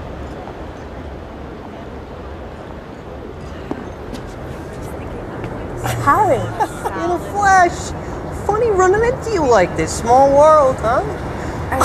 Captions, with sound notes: HOWIE. [ Chuckle ] IN THE FLESH. FUNNY RUNNING INTO YOU LIKE THIS. SMALL WORLD, HUH?